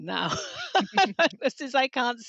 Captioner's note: laughter